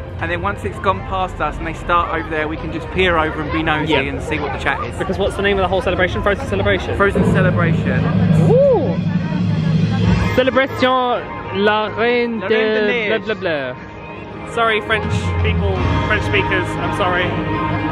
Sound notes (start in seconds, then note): 11.2 tries to speak French